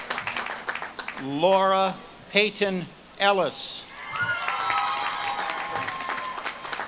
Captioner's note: audience claps and cheers